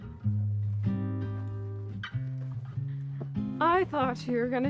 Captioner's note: night sounds